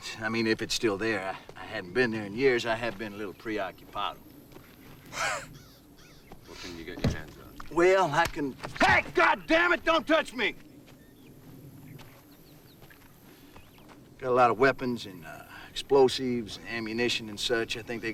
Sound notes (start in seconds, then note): 5.0 laughs